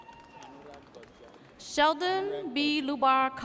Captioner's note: audience cheers